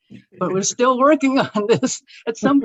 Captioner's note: laughing